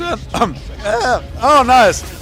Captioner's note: cough